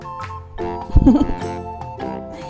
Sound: laughs

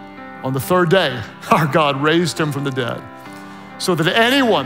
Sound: laughs

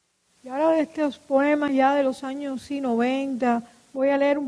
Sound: speaking in Spanish

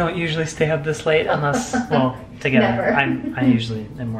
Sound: laughs

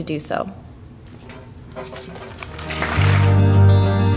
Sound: audience applause

